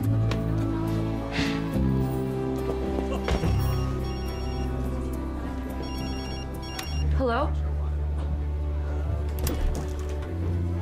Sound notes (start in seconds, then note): 3.2 cell phone rings